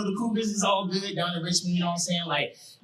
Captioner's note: none